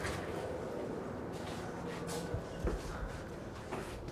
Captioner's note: none